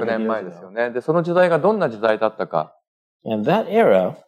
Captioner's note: speaking japanese